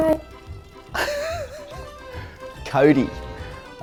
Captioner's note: laughs